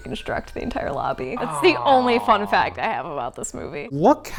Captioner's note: groans